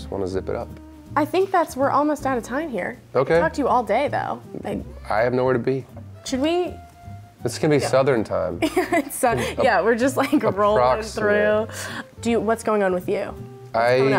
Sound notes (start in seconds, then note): 8.6 laughs